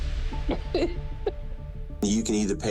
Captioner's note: chuckles